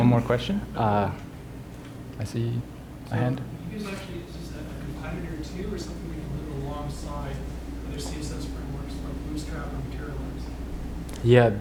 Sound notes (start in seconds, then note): 3.9 voiceover